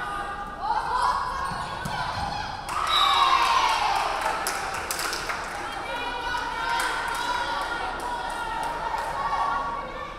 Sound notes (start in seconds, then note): 2.5 crowd cheering; 2.8 referee whistling